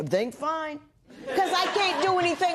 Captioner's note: laughter